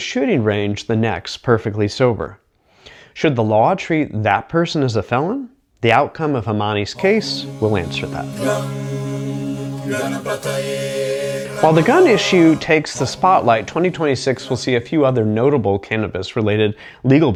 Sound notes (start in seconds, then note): 10.4 chanting